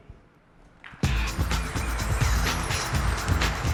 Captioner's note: applause